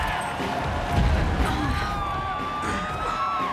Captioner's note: turbulence; fans scream